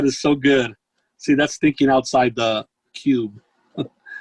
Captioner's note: giggles